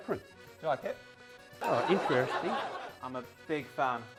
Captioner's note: audience laughing